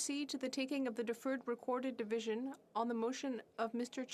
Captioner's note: speaking French